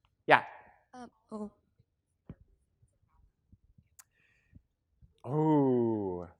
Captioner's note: student speaking faintly